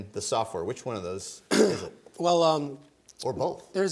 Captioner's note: coughs